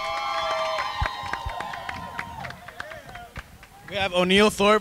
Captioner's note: crowd cheers